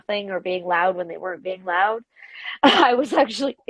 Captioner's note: laughs